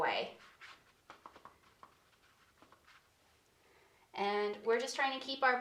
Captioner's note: paintbrush scratching